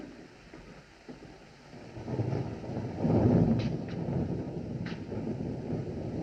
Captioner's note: thunder Rumbling In Distance